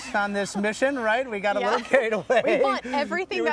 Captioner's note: laughing